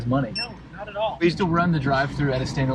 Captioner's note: scanner beeping